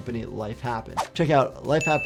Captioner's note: video whooshes